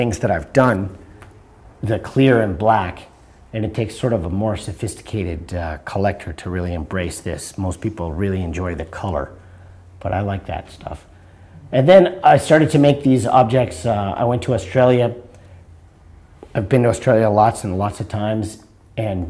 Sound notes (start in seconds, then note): none